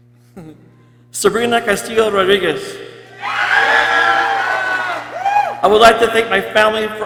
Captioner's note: people cheering